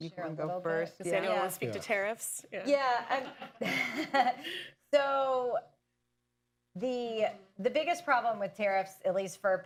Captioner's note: laughter